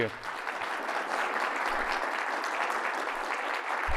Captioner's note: applause